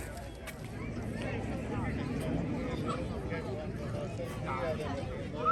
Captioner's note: people chattering